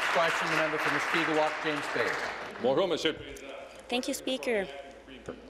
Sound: applause

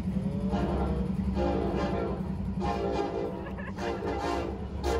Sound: train horn

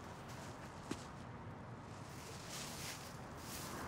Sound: none

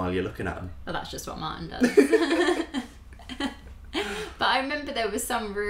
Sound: laughter

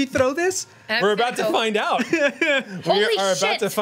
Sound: laughs

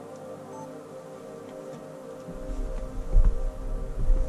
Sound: electronic beep

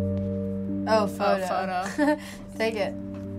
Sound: chuckles

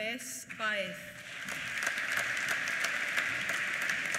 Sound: applause

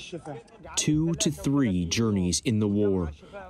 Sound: through translator

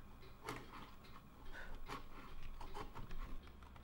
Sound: scraping

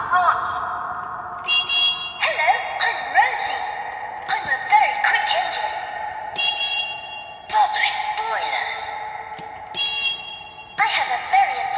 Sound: whistle blows

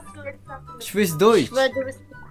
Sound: German

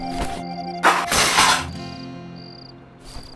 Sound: crashing

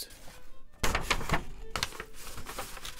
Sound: paper crinkling sounds

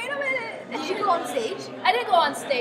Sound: laughs

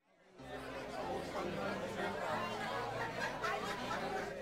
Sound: people chattering

